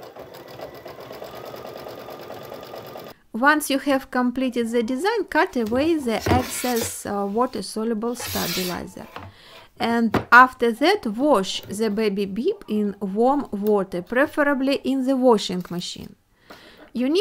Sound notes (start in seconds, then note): 0.0 sewing machine running